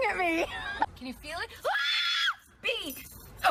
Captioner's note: shrieks